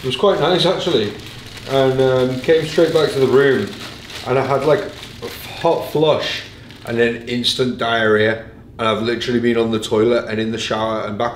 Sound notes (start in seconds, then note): none